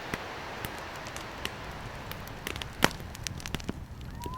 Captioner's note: fire crackling